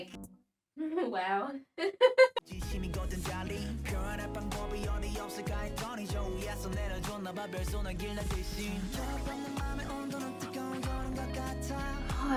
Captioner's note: giggles